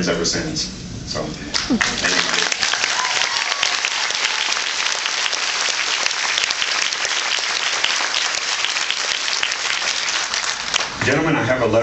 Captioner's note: applauds